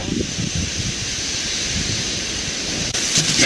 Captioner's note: wolf grunting